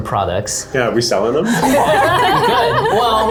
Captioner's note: laughter